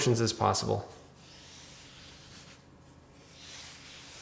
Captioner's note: dough scraping